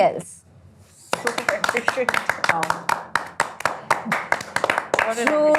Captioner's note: applause